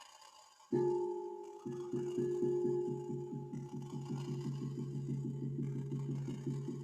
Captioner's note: beats gong